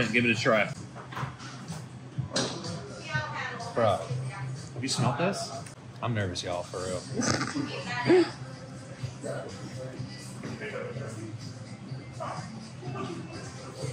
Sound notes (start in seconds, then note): 7.1 snorts; 10.0 background talking